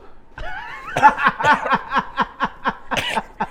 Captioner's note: laughs